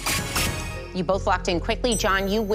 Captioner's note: chime, chime